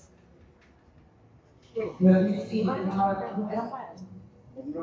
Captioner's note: audience chattering